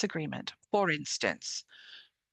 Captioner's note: speaking French